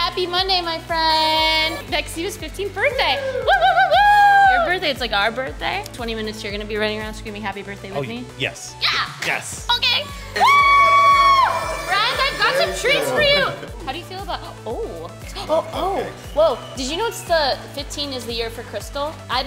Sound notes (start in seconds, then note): 2.9 employee cheers; 10.3 screams